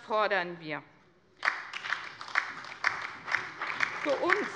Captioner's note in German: Beifall bei der CDU, dem BÜNDNIS 90/DIE GRÜNEN und der LINKEN